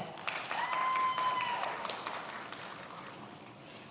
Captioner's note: many applauding